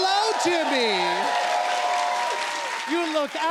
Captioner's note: cheers and applause